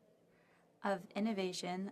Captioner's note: speaking French